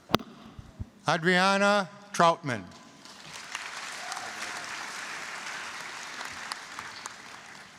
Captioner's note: applause